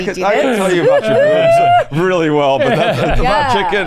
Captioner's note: laughing